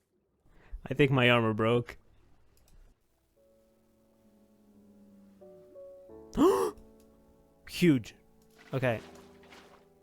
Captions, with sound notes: "...i think my armor broke" *gasp* "huge" "ok"